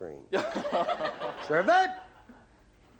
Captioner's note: laughter